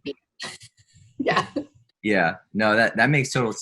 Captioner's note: laughs